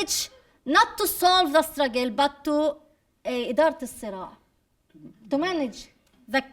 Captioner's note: speaking arabic